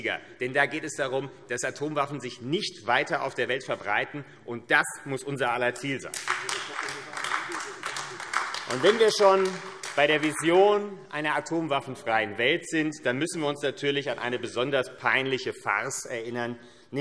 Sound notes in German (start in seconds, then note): 6.0 Beifall AfD